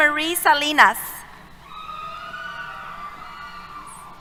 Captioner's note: cheers